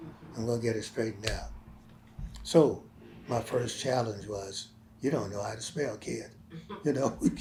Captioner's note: laughs